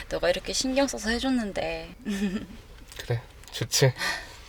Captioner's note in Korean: 웃음